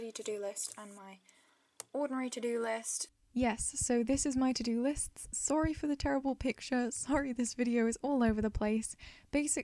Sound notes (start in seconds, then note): 3.0 voiceover